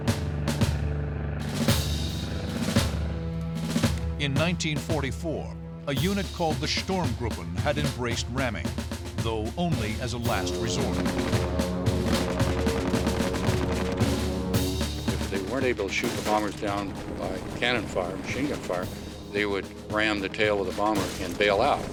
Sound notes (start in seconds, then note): 11.1 gunfire